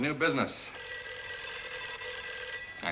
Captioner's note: phone rings